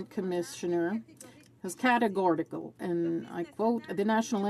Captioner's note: some Applause